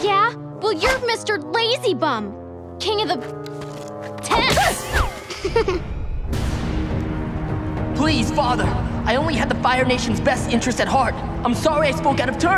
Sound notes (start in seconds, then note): 5.2 chuckling